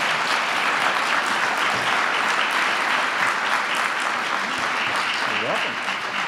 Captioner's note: applause